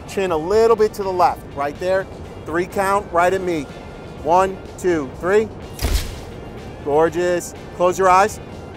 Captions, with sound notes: Chin a little bit to the left. Right there. Three count, right at me. One, two, three. (camera shutter snaps) Gorgeous. Close your eyes.